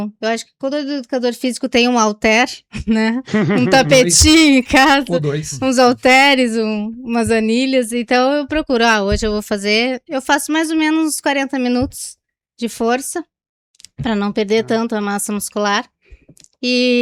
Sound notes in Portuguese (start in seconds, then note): 3.2 risadas